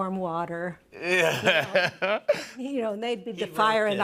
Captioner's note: laughs